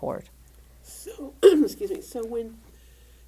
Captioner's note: clear throat